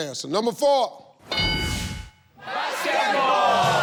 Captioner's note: ding sound